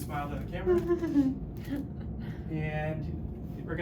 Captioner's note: chuckles